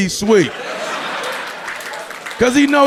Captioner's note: audience laughing